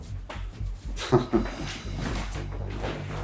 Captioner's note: chuckles